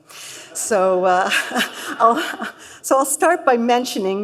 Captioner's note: laughter